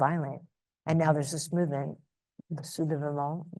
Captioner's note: speaks in foreign language